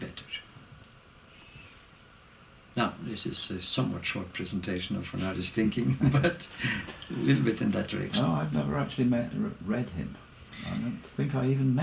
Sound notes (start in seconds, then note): 5.6 laugh